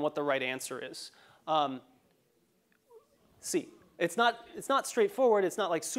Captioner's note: laugh